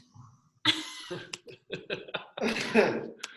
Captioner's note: laughs